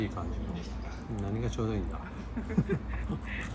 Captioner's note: laughs